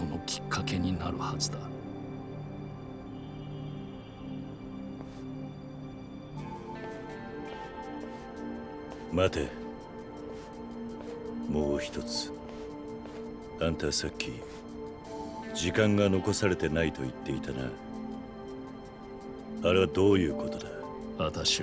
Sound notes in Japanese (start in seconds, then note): 10.4 鼻息